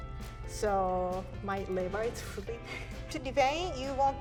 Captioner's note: laughs